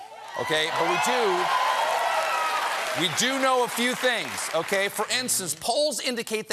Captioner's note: applause